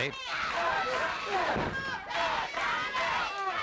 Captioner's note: crowd chanting